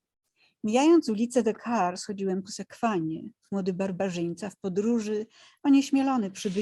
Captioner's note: speaking in foreign language